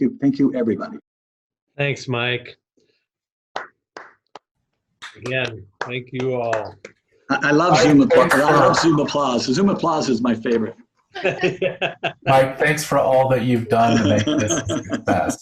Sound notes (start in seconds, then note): 5.0 hands clapping; 11.2 laughing